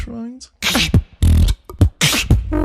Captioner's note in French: beatbox